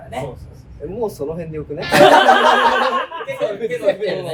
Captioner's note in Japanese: 笑い声